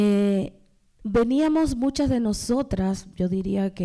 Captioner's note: speaking spanish